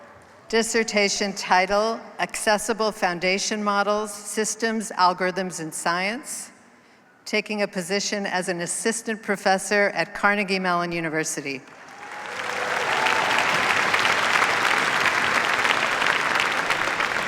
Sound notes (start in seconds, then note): 11.6 cheers, applause